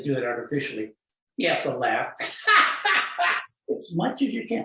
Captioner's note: laughing